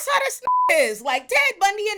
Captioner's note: beep